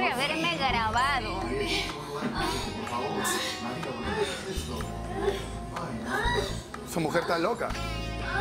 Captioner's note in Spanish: Gemidos